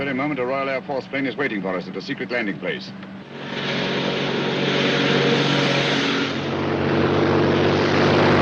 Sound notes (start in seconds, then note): 3.2 car rumbles past; 6.9 airplane roars away